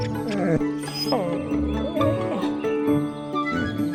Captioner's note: snoring and grunting; whining